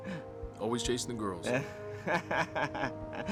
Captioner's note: laughs